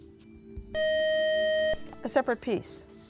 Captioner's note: beeping